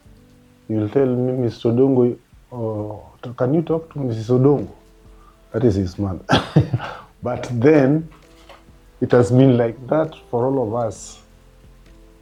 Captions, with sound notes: he will tell me, "Mr. Odongo, can you talk to Mrs. Odongo?", that is his mother. (Laughs) But then, it has been like that for all of us,